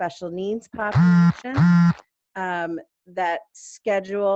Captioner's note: phone buzzes